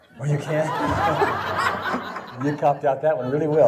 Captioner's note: audience laughing